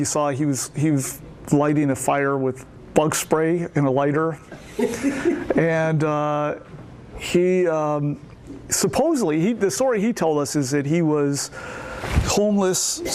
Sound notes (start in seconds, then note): 4.5 laughter